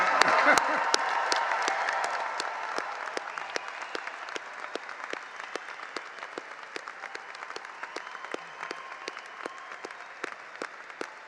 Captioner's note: cheers and applause